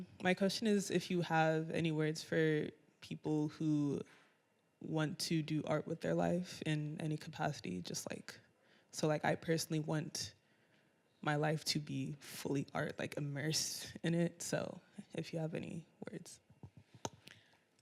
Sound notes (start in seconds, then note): none